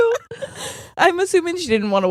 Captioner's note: laughing